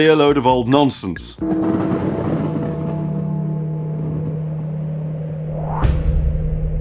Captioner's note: thunder sounds